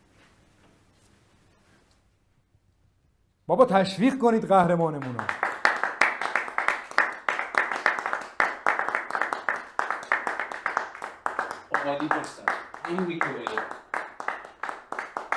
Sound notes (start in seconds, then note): 5.5 clapping sound